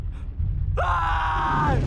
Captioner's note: snarling; soldier screams in terror